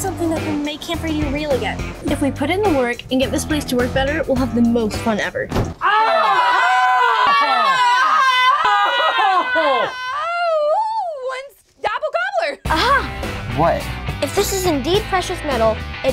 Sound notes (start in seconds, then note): 5.5 loud thump; 5.8 everybody screaming